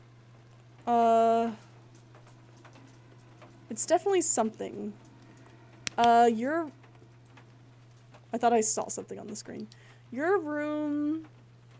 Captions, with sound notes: Uhh. [Doggy Nails Clicking] It's definitely something. [Flashlight Clicks Off] Uh- You're- I thought I saw something on the screen. Your room-